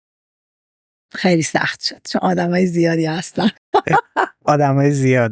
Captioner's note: laughs